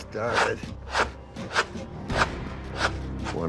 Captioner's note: rasping